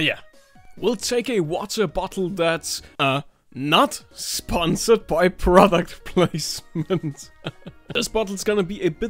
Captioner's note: chuckles